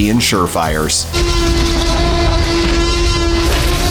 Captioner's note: roars